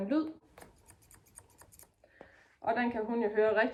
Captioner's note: scissor sounds